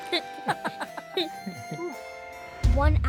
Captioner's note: laugh